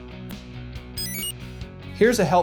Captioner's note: enter chime